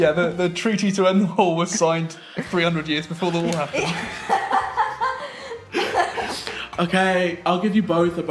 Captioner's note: laughing